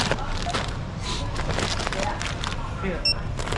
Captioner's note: bags rustle